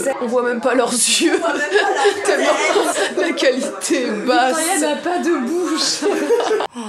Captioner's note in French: rires